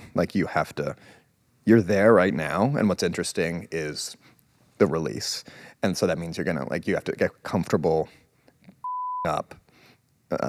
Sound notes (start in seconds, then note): 8.8 beep